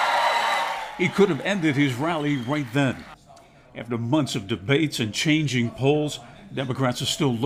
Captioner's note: applause